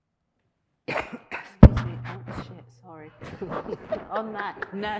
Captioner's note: coughs; laughs